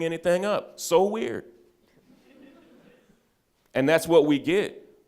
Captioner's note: audience chuckles